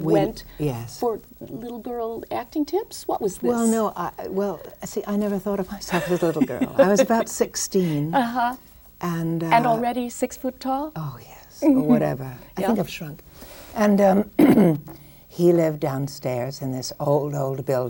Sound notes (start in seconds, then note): 5.9 laughs